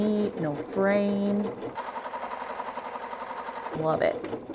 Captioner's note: sewing